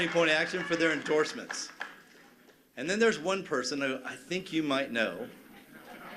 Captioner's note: cheers and applause